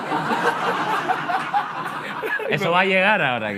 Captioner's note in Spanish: Risas